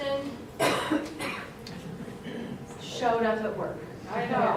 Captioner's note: someone Coughs